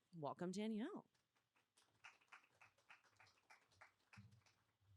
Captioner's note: applause